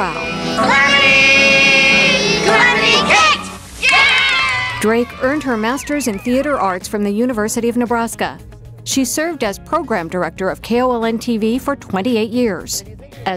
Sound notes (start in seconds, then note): 3.4 kids cheering; 3.4 kids clapping hands